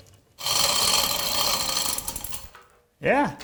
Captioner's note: chains sliding